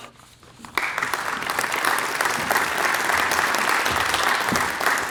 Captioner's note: applause